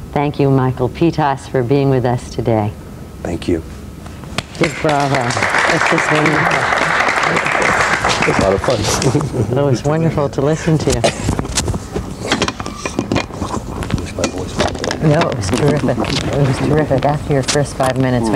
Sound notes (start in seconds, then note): 7.2 applause